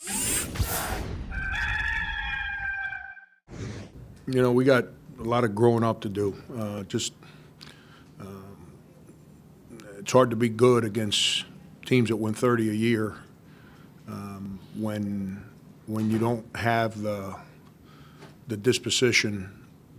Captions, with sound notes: (electronic buzzing) (sharp booming) (rooster crows) - You know, we got a lot of growing up to do. It's hard to be good against teams that win 30 a year when you don't have the disposition